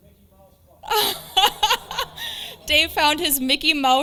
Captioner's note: laughs